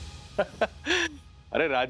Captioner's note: laughing